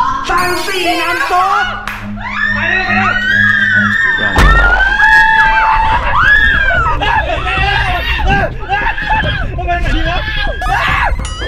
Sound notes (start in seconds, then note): 2.1 screams; 4.7 screaming continues; 4.7 siren wailing; 9.5 pat; 9.9 screams